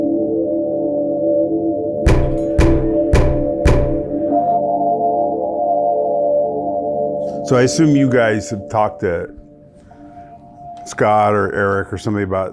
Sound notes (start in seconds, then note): 2.0 loud banging on door; 4.2 suspenseful music continues